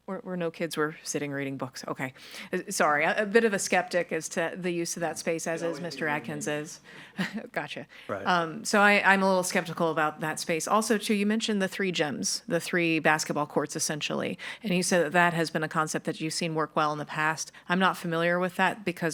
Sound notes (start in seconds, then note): 6.4 speaker speaking faintly